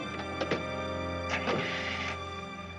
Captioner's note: engine starting